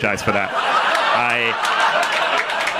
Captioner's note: audience laughing